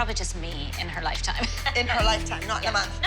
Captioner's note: laughs